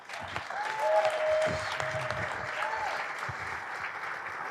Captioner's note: audience applauding